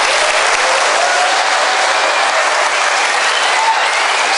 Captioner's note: applause